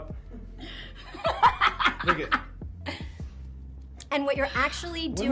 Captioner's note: laughing